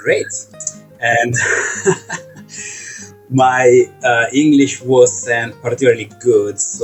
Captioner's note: laughs